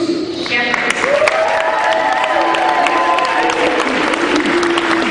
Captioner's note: cheering